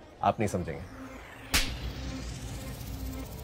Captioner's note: Slapping sound